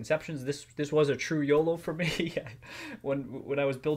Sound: laughs

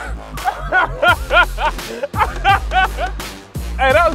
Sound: laughing

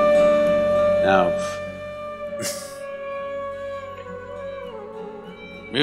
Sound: laughs

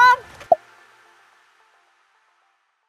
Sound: pop

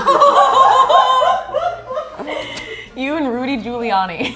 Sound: girls laughing; giggles

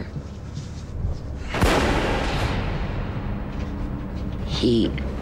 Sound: gun shot

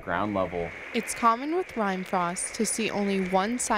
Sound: voiceover

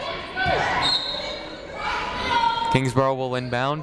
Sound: whistle tweeting

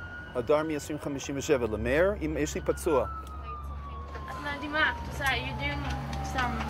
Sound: medics speak foreign language

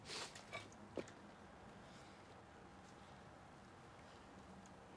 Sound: sniffling

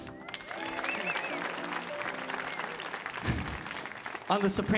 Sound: audience applauding

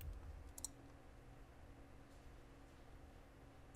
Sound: mouse clicking

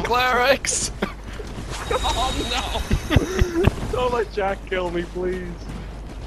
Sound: laughing

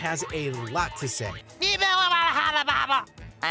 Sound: talking gibberish

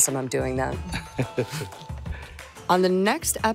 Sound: laughing

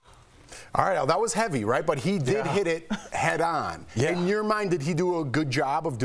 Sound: laughter

